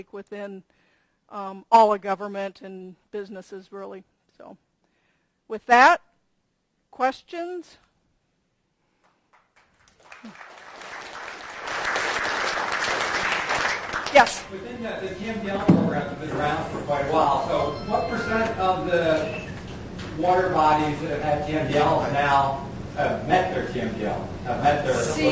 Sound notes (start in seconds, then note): 9.1 audience applauding